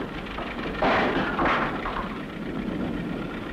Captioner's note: sound of falling objects